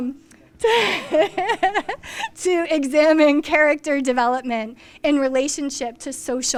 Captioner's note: laughs